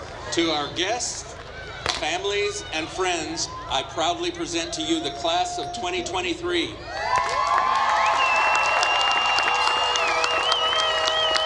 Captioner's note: applause